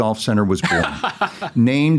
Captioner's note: laughs